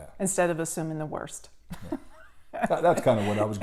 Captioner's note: laughs